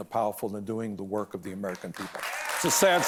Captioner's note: cheers and applause